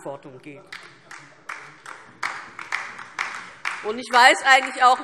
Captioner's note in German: Beifall DIE LINKE